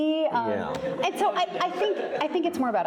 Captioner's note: audience laughing